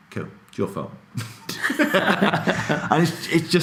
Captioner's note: laughing